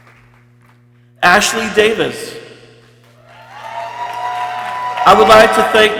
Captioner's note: people cheering